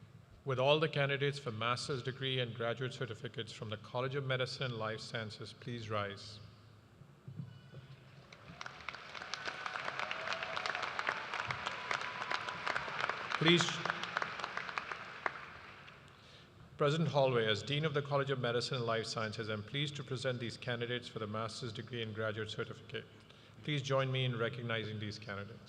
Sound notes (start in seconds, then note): 13.9 cheers and applause